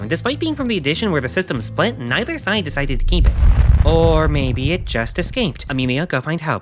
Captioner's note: thud